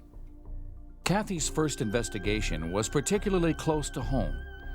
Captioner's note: voiceover